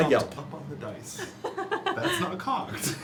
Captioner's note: laughs